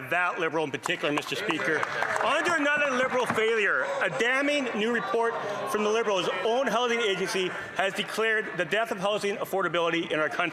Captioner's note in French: voix de l'interprète